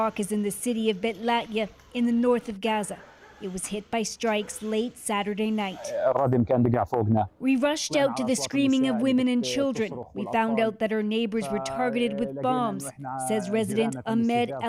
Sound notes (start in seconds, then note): 7.7 speaking alternate language